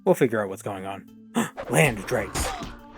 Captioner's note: gasp